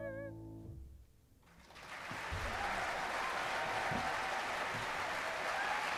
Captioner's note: applause